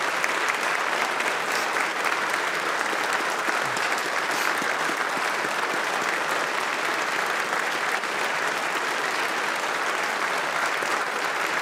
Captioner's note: applause